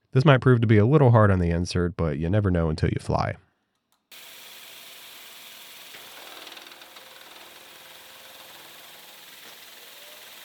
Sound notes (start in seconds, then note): 4.1 machinery whirring